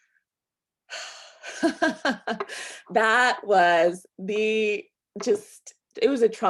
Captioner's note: sighs; chuckles